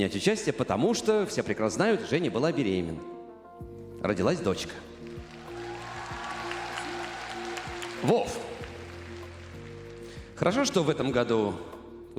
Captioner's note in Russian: аплодисменты